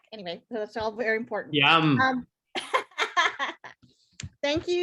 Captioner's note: laughs loudly